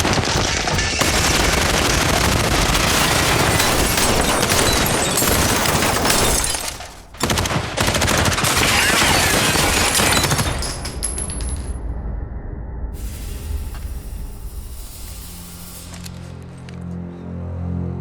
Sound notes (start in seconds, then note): 11.2 bullet casings clattering; 14.9 suspenseful music